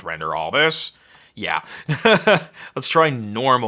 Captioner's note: laughing